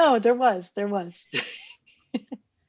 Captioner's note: laughter